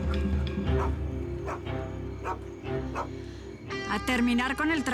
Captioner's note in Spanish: Ladridos